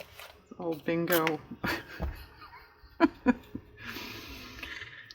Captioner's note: laughs